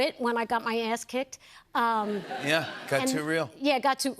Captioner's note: laughter